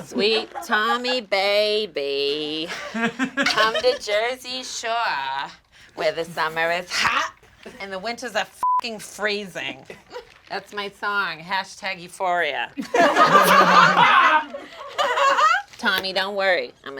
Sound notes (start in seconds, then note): 8.6 beep; 12.8 all laugh